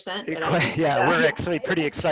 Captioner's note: laughs